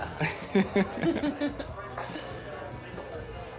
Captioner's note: both lauaugh, cellphone chiming